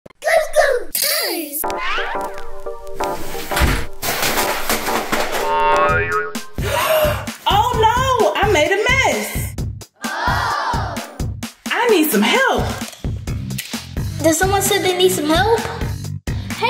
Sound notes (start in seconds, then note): 1.6 bright music; 3.4 things thudding; 3.5 door thuds; 5.2 upbeat music; 5.4 screen boings; 6.6 gasps